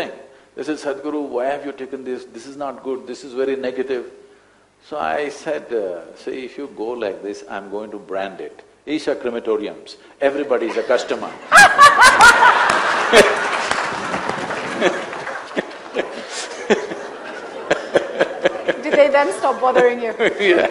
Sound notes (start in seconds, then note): 11.5 laughter/Applause